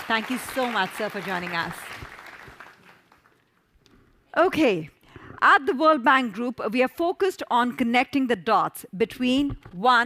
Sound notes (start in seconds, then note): 3.2 audience applause